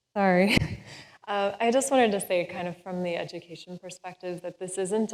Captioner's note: laughs